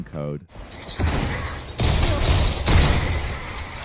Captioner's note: gun popping